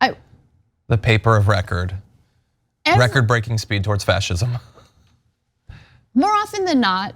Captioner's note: laugh